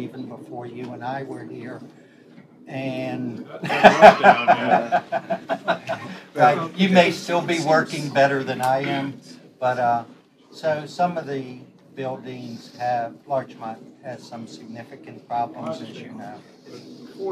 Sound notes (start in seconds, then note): 3.6 laughter